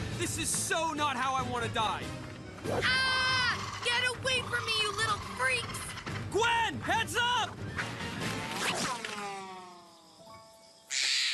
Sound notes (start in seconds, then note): 2.8 Gwen Screaming